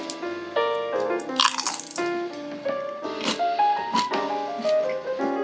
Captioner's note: incredible spring roll crunching